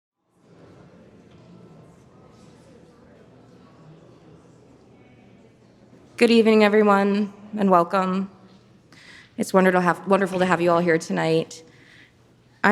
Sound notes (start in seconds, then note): 0.4 audience murmuring